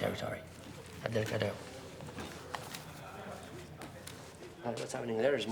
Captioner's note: people chatter indistinctly